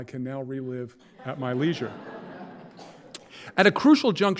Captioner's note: audience laughing